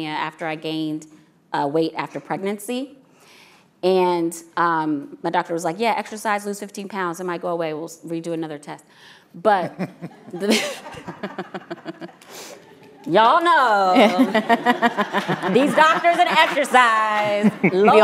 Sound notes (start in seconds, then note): 9.7 all chuckling